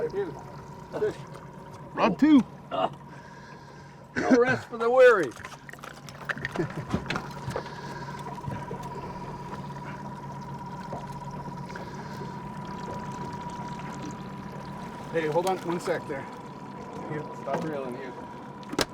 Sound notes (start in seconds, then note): 4.2 groaning; 6.3 chuckling; 8.3 boat engine idling; 18.7 fish splashing